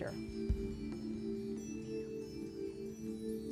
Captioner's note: whispering